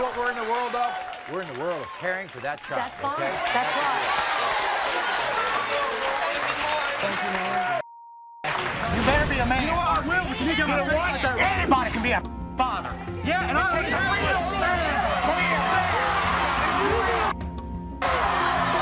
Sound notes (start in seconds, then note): 4.0 audience cheers; 10.4 audience drowns out; 13.2 audience cheers; 14.8 guests yelling and arguing